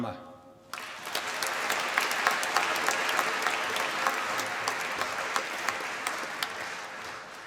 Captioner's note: applause